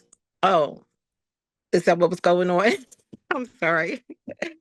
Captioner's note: laughs